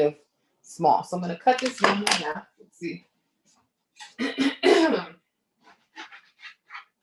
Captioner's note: coughs